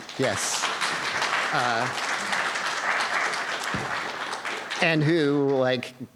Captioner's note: applause